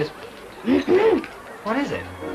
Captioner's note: ahem